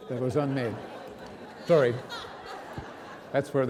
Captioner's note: audience laughing